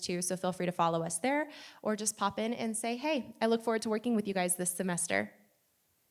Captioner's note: none